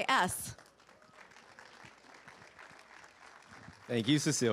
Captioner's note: participants applauding